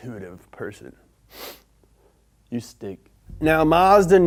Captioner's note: sniffs